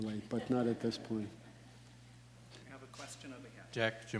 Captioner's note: audience laughing